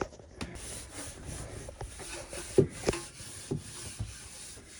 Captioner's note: scrubbing